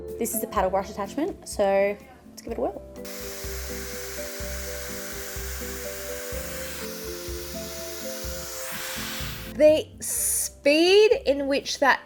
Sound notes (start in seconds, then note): 3.0 hairdryer whirring